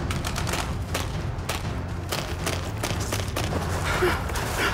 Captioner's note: dramatic music; airsoft guns firing; hurried breathing